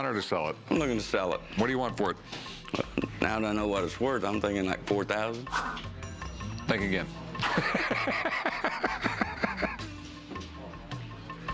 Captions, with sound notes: I'm looking to sell it. What do you want for it? Now that I know what it's worth, I'm thinking like $4,000. Think again. [laughs]